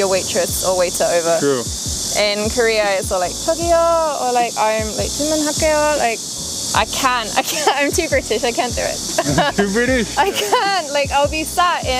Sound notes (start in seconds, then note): 9.0 laughs